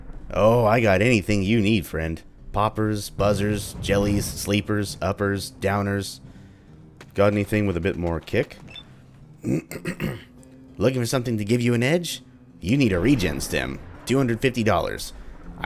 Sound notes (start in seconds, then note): 9.4 clears throat; 13.0 thunder